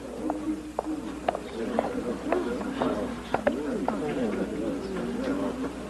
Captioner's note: speaking softly